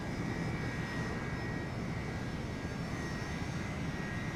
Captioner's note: plane engines whirring